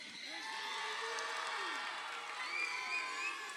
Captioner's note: crowd cheering